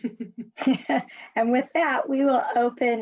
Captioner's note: laughs